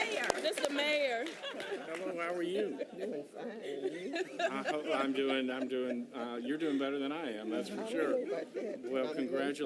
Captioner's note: applause